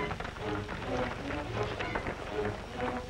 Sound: shouting

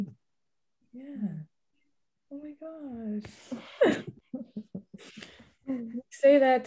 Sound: laughing

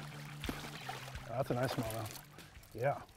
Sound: fish splashing

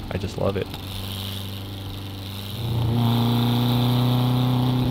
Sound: engine rumbling

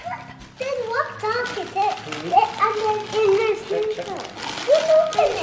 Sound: plastic crinkling

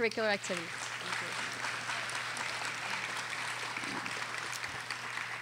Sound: audience applauding

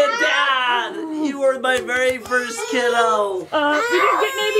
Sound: crying

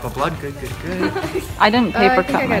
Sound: giggles

